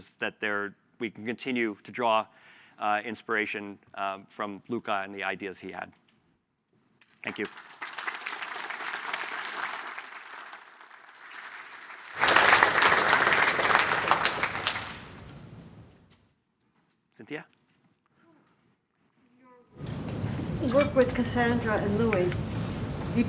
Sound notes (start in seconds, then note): 8.8 applause